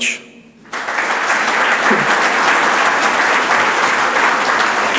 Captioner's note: audience applauds